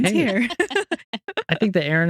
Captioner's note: both Laughing